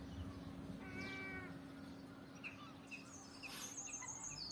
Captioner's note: seagulls calling